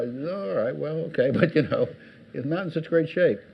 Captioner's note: audience laughs